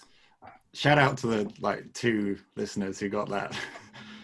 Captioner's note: laughs